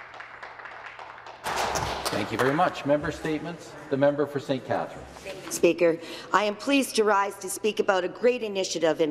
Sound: some Applause

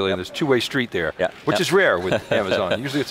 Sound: laughing

